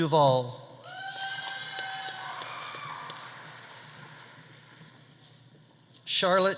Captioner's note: audience cheering; audience applauding